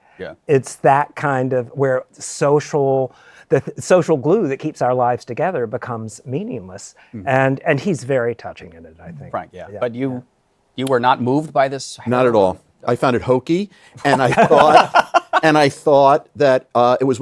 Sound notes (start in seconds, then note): 14.0 laughter